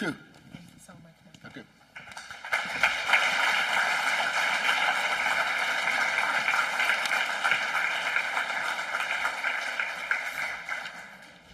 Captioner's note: applause